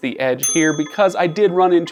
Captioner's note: bell dings